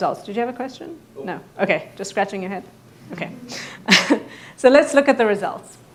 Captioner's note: laughs